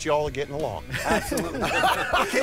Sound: laughs

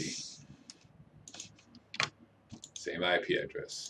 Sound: mouse clicking

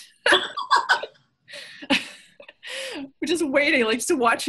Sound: everyone laughs

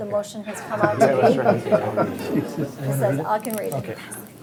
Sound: all laugh

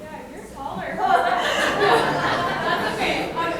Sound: room laughs

